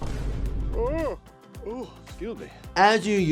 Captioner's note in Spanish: bosteza